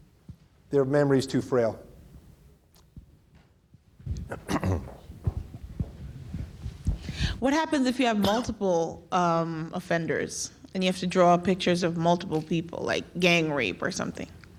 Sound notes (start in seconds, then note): 4.1 clears throat